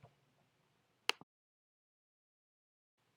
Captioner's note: clicking noise